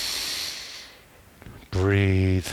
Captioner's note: inhales